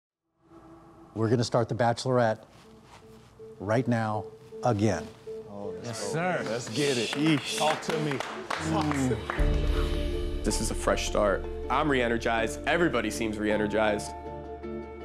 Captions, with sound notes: [overlapping chatter] - Yes, sir! - Let's get it. - Sheesh. - All to me. - [exhales] This is a fresh start. I'm reenergized. Everybody seems reenergized.